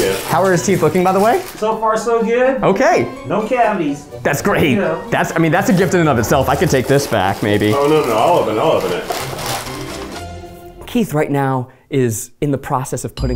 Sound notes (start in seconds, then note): 9.2 wrapping paper crinkles